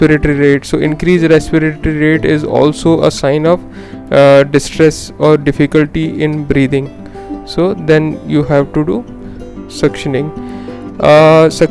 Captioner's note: working hard to breathe